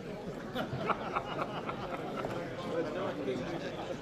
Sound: laughing

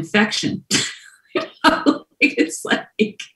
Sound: laughs

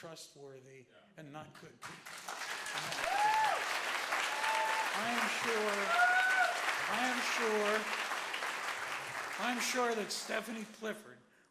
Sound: applause

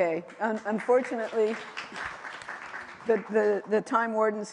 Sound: applause

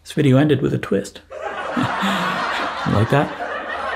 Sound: pretentious background laughs

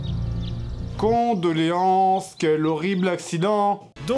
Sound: unnatural talking

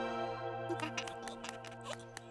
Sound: giggling

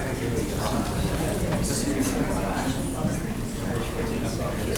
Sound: audience talking

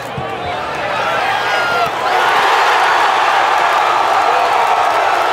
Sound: crowd cheering

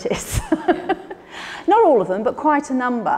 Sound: Ruth laughs

